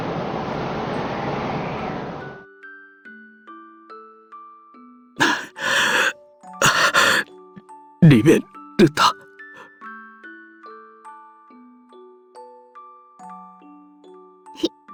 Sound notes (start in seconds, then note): 5.2 panting; 14.3 crying